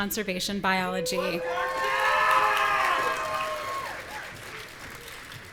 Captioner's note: audience cheering